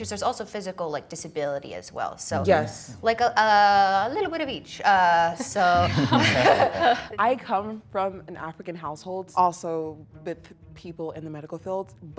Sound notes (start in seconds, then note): 5.4 participants chuckle